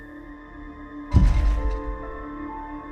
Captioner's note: thud